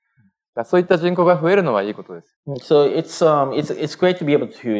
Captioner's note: speaking japanese